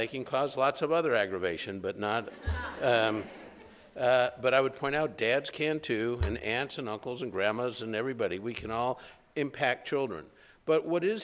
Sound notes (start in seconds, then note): 2.2 laughter